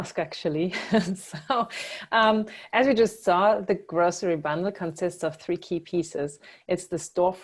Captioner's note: laugh